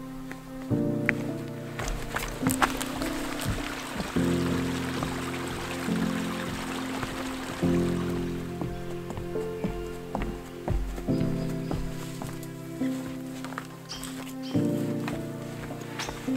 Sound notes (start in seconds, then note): 0.2 footsteps balancing on logs; 3.7 footsteps clomping; 9.2 footsteps clomping; 14.3 alarmed birds calling